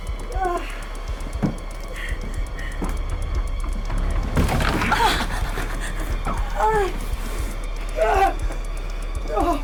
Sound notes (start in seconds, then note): 0.3 Sue groans; 4.9 Sue groaning